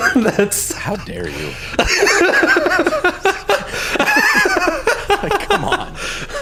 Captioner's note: laughter